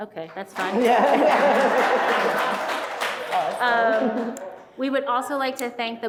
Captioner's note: audience applauding